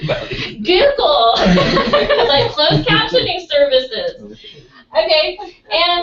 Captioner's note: laugh